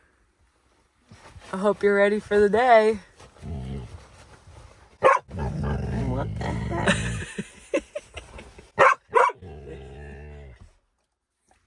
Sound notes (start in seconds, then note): 5.0 Camper barking; 8.7 barking